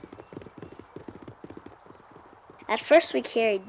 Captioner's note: hooves thudding